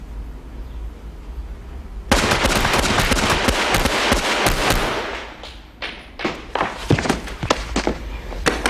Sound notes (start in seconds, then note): 2.1 gun fires